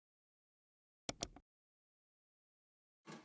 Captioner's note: mouse click